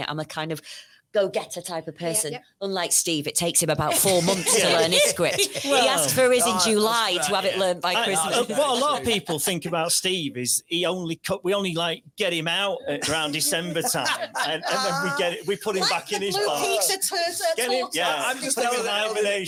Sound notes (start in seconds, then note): 8.8 laughs